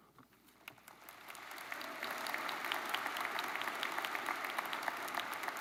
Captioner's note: audience applauds